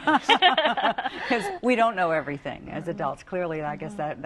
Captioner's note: laughter